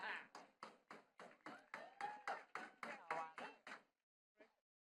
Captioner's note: attendees clapping